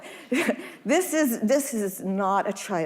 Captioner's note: audience laughing